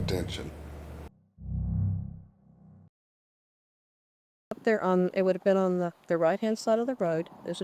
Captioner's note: low boom